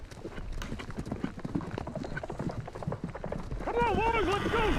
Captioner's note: horses approach outside